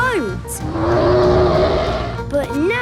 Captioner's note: loud roar